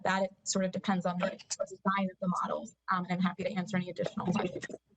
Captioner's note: audio interference